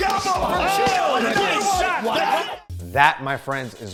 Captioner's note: cheering